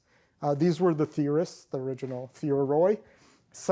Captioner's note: non-english